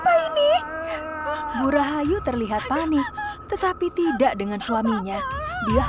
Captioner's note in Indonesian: terdengar suara bu Rahayu menangis karena panik dan terkejut